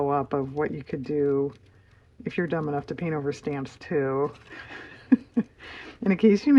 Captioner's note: laughs